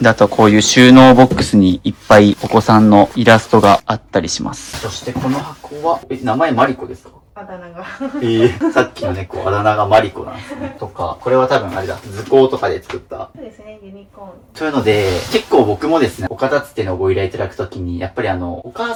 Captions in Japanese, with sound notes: あとはこういう収納にいっぱいお子さんのイラストがあったりします。そしてこの箱は名前マリですか? あだ名が。[笑い] ええ、さっきの猫あだ名がマリなんとか多分あれだ。図行とかで作った。 そうですね。ユニコーン というので結構僕もですね、岡立つてのご依頼いただく時にやっぱりあのお母さん側がお子さんの作品結構捨てづらいですっていう。多分ここ自体は多分もうお子さん自体はそんなに残してほしいって言われてるわけでもなく